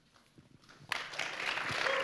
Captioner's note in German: Applaus